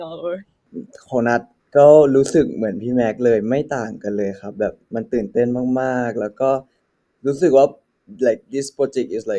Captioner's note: in Thai